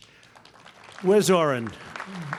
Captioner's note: applause